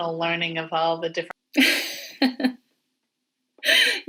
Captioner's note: laughing